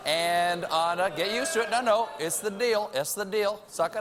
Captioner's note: audience reacts